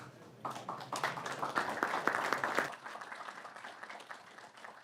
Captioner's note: audience clapping